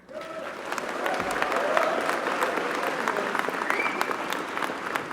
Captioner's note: applause